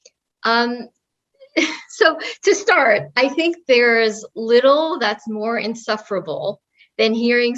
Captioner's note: laugh